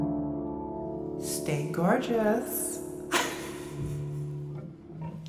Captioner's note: laughs